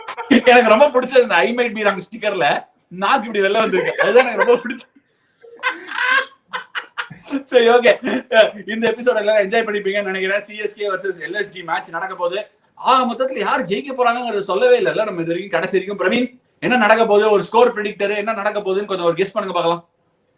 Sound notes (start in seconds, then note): 5.4 laughs